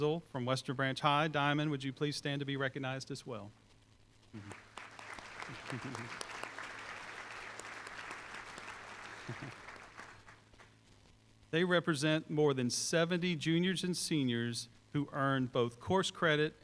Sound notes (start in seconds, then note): 4.4 applause